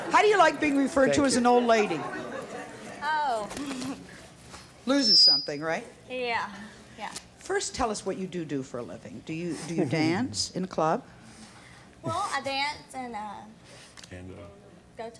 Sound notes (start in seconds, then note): 1.9 laughs